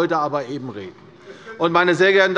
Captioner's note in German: Zurufe der Abg